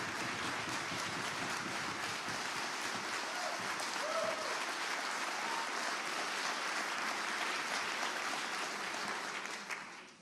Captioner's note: applause